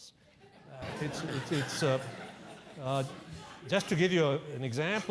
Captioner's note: laugh